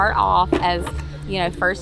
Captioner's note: bucket drops